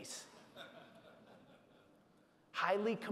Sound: audience laughing

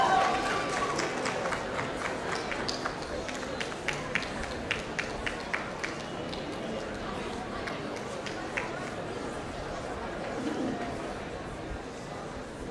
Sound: applause

